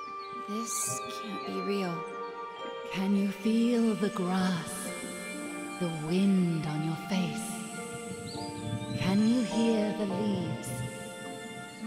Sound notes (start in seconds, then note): 3.4 breathy, from nowhere